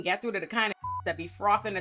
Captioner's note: beep